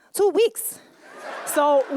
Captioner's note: laughter